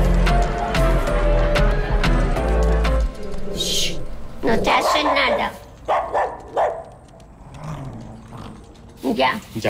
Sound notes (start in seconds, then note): 4.3 dog growling; 4.9 speaking in foreign language; 5.8 dog barking